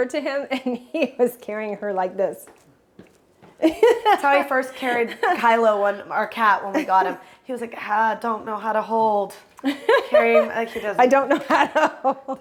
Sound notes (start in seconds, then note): 3.6 Brandi chuckles; 9.6 Brandi laughs